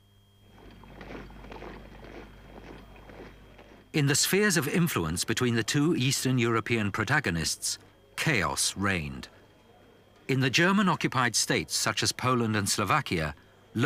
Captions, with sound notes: (boots thudding) In the spheres of influence between the two Eastern European protagonists, chaos reigned. In the German-occupied states, such as Poland and Slovakia,